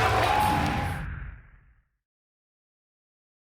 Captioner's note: swoosh